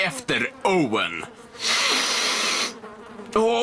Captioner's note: inhales deeply